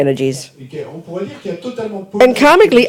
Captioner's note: audience member speaks in French